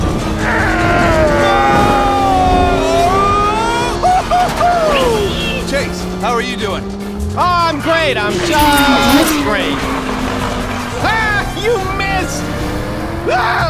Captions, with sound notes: (yelling) Chase, how are you doing? - Oh, I'm great, I'm just great. Ha, you missed!